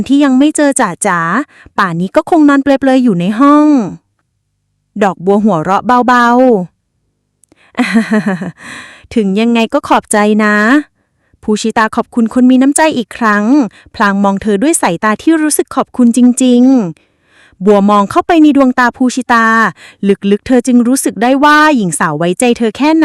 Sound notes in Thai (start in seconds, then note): 7.8 เสียงหัวเราะ